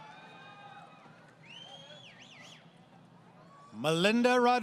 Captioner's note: crowd Cheering